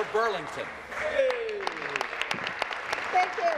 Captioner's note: applause